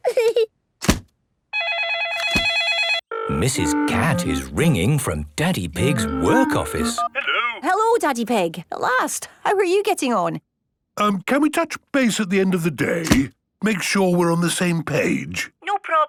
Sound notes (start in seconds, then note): 1.5 phone ringing